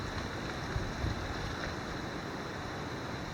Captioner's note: water splashing